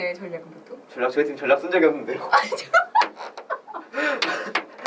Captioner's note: laughs